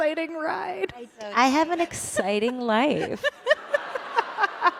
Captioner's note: valley girl voice; laughter